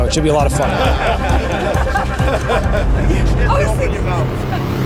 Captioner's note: laughing